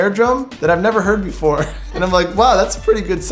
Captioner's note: laughing